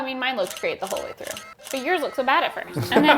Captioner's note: camera clicks